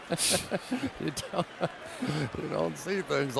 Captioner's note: laughter